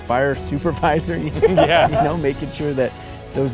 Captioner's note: laugh